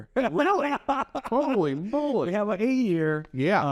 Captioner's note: laughs